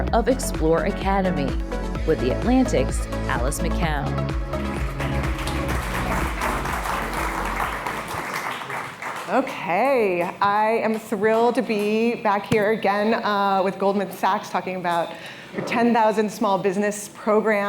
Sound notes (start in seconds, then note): 4.6 applause